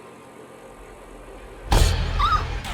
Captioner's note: Sprinkles squeaks